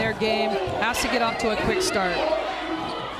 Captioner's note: crowd booing